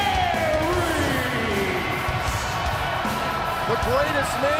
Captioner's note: crowd cheering